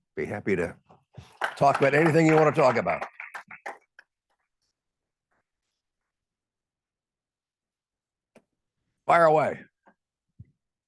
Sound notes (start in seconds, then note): 3.2 attendees applauding